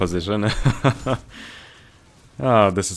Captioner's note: laughter